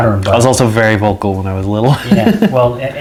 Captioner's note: laughs